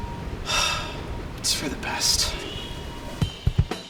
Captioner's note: sighs